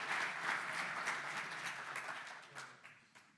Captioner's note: audience applauds